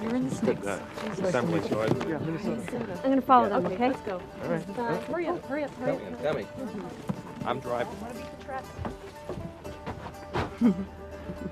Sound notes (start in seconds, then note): 0.0 everyone talking; 10.4 sighs